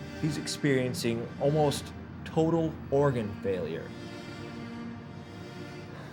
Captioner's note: sighs